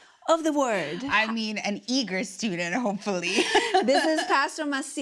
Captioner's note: laughs